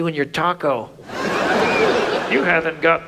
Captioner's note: audience laughs